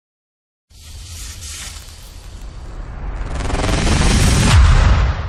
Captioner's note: electricity crackling